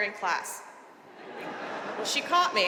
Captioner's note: audience laughing